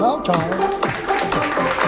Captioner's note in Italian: Applauso